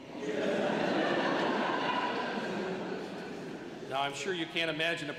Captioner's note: laughter